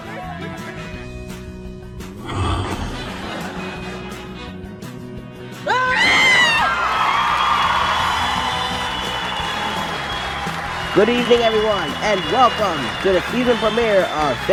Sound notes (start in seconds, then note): 7.7 cheers and applause